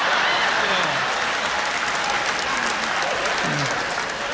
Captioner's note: laughter